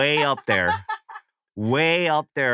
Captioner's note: laughs